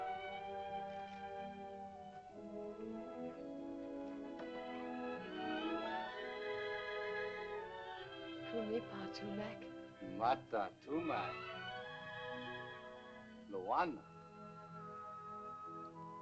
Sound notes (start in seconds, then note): 0.0 sentimental music; 8.4 speaking in caveman language; 15.9 soft music